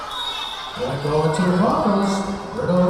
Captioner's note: whistle blowing